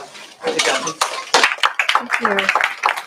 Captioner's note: applause